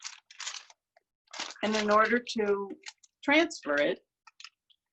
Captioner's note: tracing paper rustles